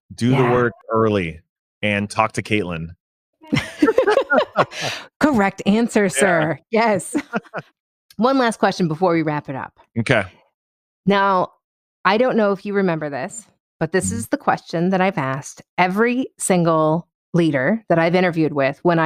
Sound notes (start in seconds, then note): 3.5 laughs loudly